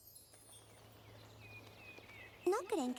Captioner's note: birds chirping